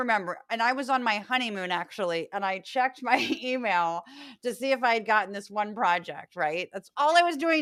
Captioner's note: laugh